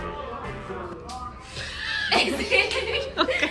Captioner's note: ruido en la calle; se ríen